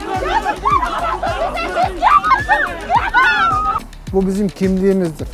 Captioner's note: shoutings…